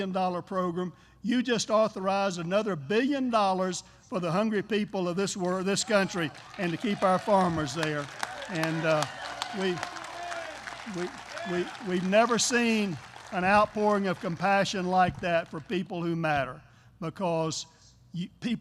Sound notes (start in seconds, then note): 8.0 applause